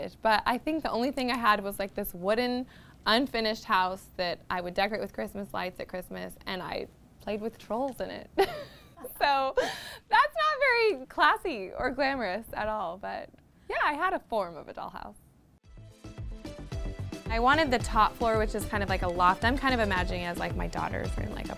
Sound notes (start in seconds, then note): 8.4 giggles; 15.6 lively music